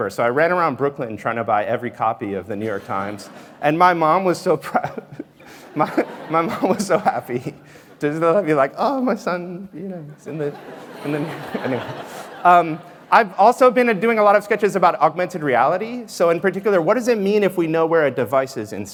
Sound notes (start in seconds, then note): 10.2 laughter